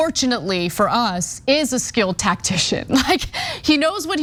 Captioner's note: laugh